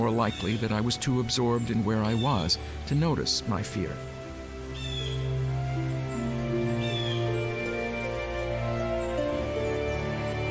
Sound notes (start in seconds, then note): 4.6 large birds calling